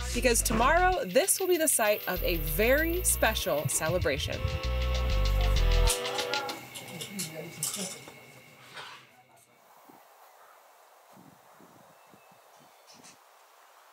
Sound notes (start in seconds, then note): 4.7 upbeat music; 7.7 crickets chirping; 10.0 birds chirping